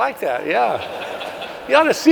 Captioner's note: audience laughs